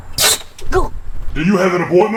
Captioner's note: hand knocks; metal creaks